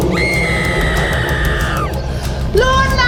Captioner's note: Luna screaming